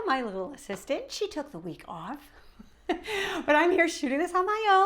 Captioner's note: chuckles